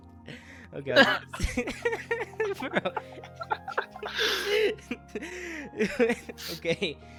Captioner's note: continues laughing